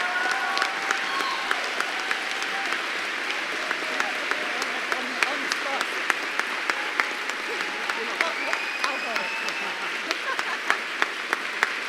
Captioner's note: applause